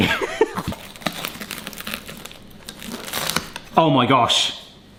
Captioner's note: pizza crunches